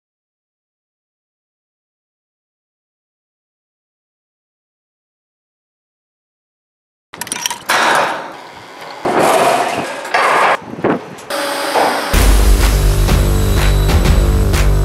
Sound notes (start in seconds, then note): 9.0 equipment bangs; 12.1 rock music